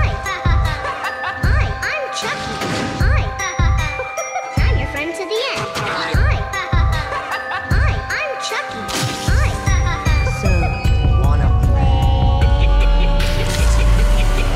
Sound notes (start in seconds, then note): 8.9 break Sound